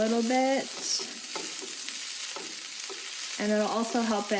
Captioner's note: sizzling